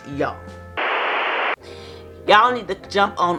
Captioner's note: static noise